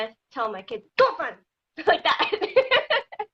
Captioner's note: speaking foreign language